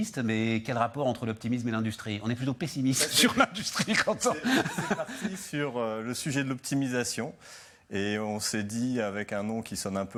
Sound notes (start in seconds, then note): 3.8 laughs